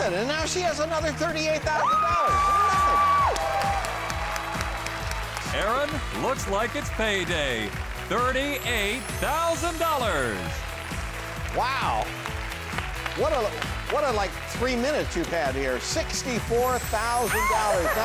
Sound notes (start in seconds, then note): 5.6 voiceover